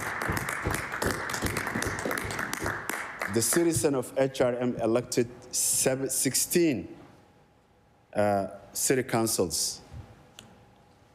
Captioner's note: applause